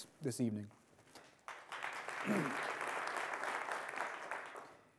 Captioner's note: applause